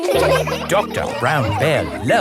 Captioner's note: all laughing